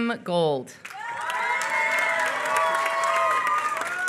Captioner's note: applause